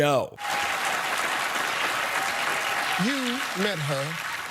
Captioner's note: crowd clapping